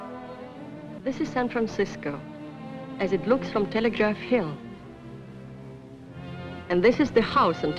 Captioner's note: woman Narrating